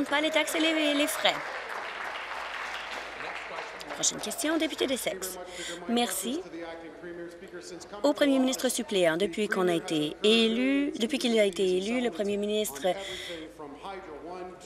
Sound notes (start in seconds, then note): 4.6 applause